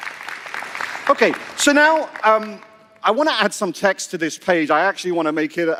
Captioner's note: applause